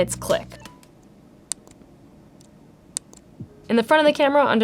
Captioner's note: button clicks